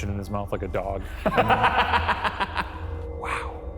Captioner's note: laughing